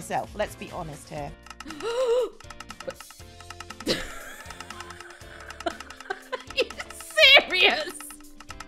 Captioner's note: dispensers firing rapidly; startled laughter